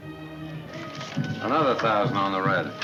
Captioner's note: lively music; people chattering